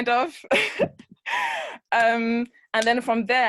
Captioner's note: laughs